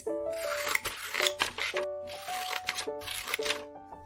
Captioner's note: paper rustling; scissors slashing